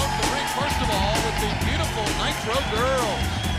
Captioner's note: crowd cheering